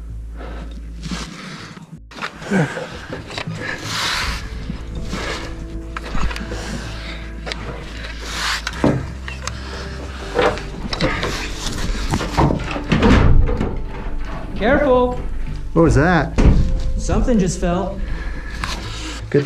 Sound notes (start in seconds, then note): 13.2 clattering